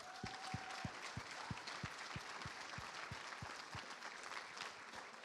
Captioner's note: applause